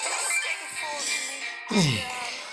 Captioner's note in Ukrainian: глибокий вдих